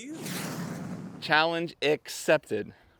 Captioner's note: rocket whooshing